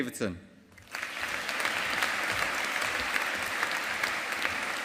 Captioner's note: audience applauding